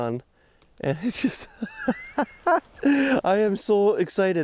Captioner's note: laughs